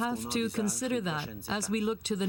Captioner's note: speaking French